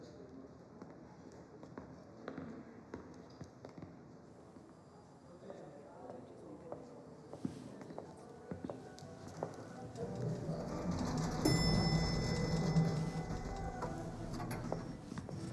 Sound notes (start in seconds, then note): 11.8 elevator dinging